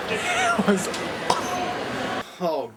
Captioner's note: voice breaks